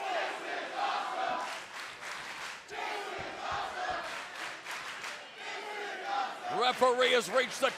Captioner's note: fans chanting